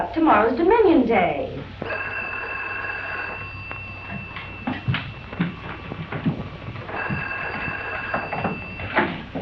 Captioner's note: phone ringing